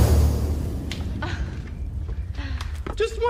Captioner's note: chuckling